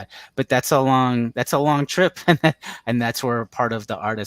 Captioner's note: laughs